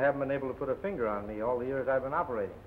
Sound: none

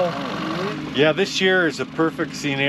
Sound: boat engine idling

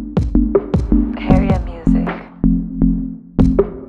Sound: automated Voice

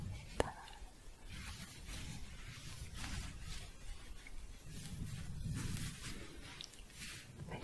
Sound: shuffling

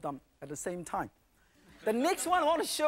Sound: audience laughing

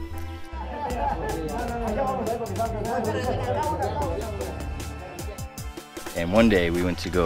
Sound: indistinct chattering in Spanish

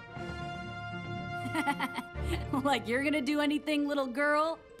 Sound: laughs

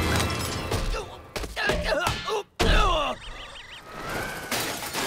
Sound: grunting

